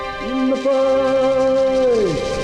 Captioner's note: chanting